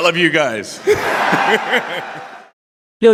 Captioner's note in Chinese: Applause; 掌声